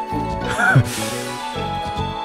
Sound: laughs

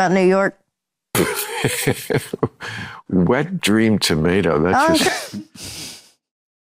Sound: laughs

